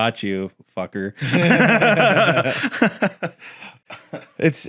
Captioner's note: all laugh